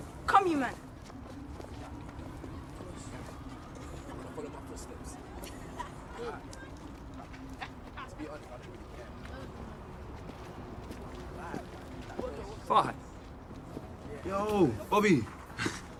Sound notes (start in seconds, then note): 4.1 all chattering